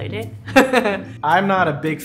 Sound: laughing

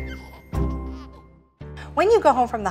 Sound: baby giggles

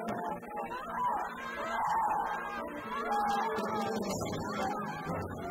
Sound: screaming

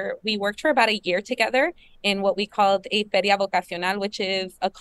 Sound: speaking spanish

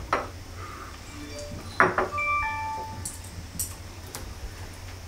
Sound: sound of tableware; sound of cell phone notification

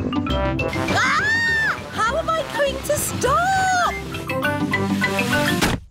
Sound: shrieks

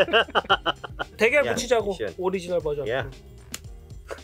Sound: laughs; speaking in Korean

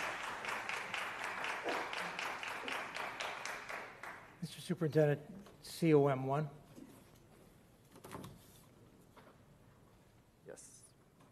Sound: applause

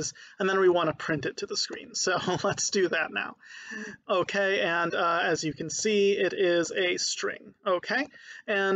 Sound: laughing

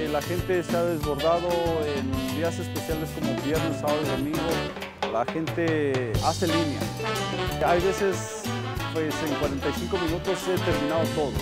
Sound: speaking spanish

